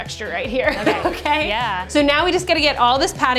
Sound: laughs

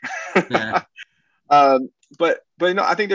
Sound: laughs

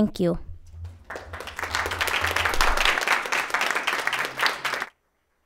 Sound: attendees applauding

